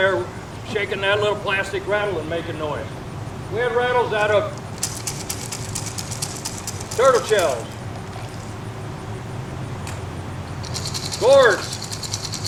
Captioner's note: shakes rattle